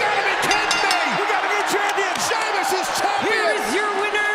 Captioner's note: bell ringing